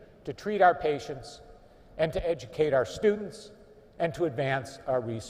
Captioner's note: none